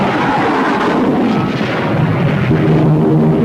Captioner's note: plane engines roaring; weapons firing; plane engines roaring